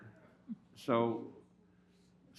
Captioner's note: laughter